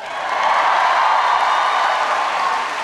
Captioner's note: applause